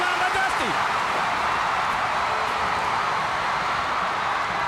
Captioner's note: audience cheering